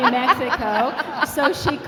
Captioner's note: laughing